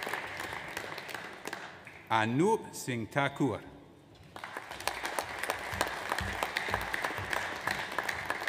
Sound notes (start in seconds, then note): 4.3 audience applauds